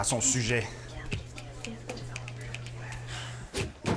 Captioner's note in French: en chuchotant